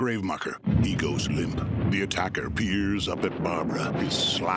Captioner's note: thunder striking; intense music